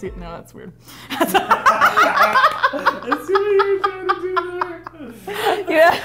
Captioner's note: laughing